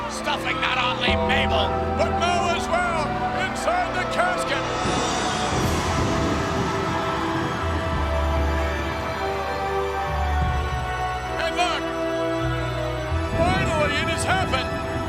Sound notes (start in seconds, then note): 5.9 audience continues cheering; 5.9 ominous music continues